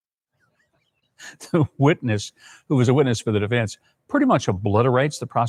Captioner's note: laughs